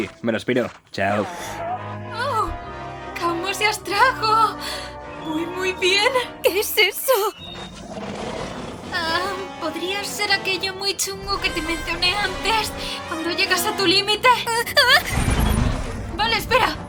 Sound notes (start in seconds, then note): 7.3 Kaufo growls